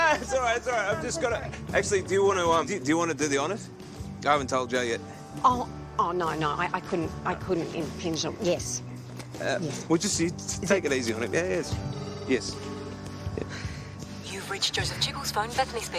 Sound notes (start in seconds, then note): 11.9 ringing tone